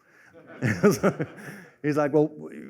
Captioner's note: laughter